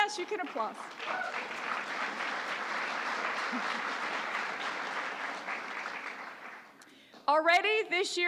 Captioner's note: applause